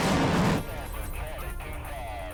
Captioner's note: phone filter speech